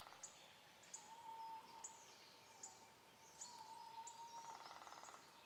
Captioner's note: birds chirping